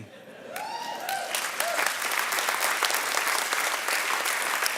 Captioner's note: audience clapping